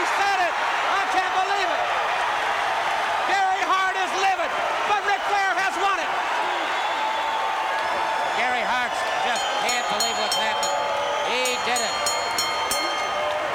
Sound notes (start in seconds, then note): 9.3 bell dinging